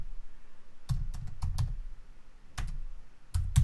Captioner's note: keys tapping